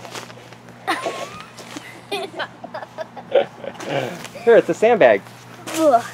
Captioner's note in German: Kinder Lachen